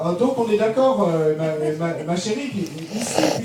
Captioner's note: speaking in French